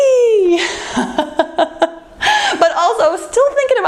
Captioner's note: laughs